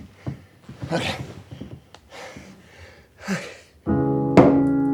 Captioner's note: panting; somber piano music